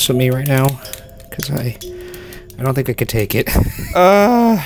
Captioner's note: laughing